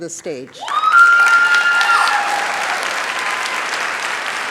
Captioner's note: cheering, applause